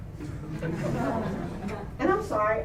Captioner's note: laughter